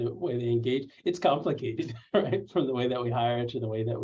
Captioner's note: laughter